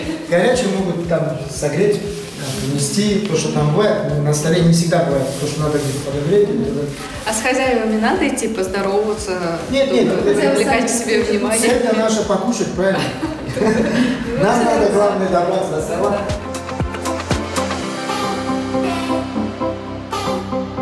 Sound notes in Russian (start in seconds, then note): 12.9 смеётся